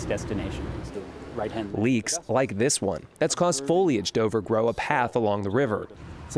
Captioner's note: voice-over